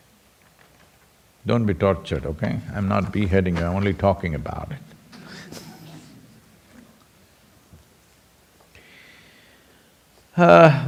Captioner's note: laughs